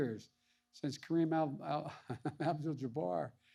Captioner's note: laughs